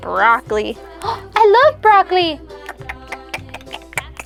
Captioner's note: lip smacking noises; gasps